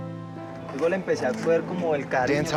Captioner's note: speaking Spanish